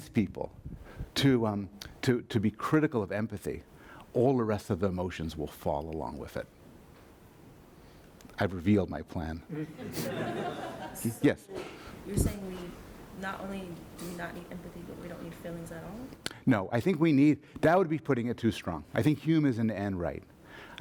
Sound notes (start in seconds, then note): 9.5 audience laughter; 12.2 voiceover; 16.3 voiceover